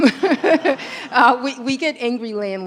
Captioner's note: laughter